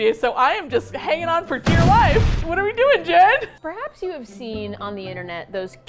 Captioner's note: flames roar; laughs